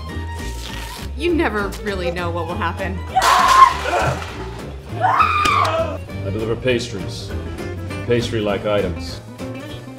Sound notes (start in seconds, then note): 4.9 screaming